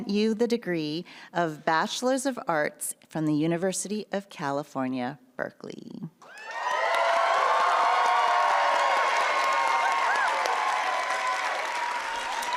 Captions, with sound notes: you the degree of Bachelor of Arts from the University of California, Berkeley. (applause and music continues)